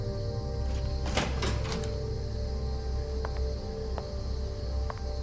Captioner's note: door opening